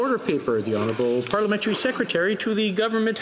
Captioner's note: speaking French